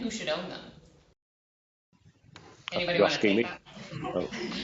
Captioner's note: laughter